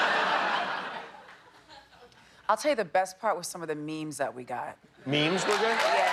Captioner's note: laughter